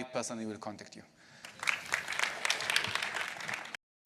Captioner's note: applause